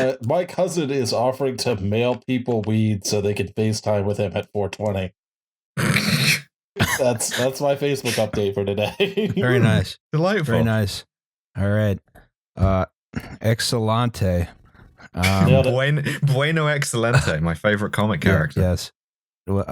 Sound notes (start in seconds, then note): 0.0 laughs; 5.8 snorts